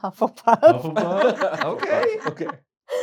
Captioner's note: laughter